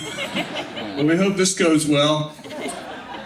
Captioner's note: laughing